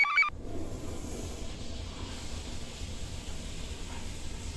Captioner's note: computer chirps; toilet flushes